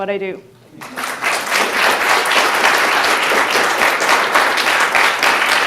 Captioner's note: audience applauding